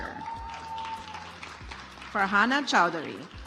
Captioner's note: audience applauds